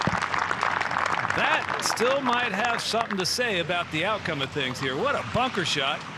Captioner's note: applause